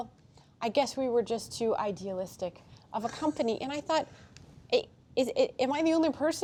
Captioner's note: laughter